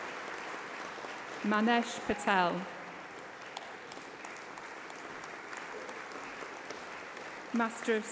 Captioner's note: applause